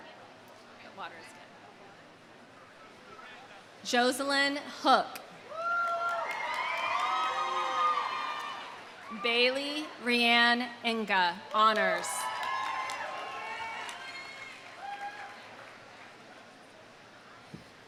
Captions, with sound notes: Okay, water's good. Joselyn Hook. (audience cheering) (audience applauding) Bailey Reann Inga, honors. (audience cheering) (audience applauding)